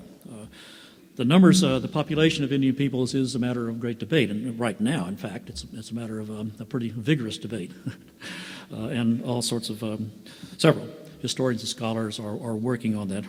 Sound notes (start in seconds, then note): 8.3 laughs